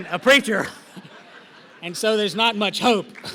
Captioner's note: laughter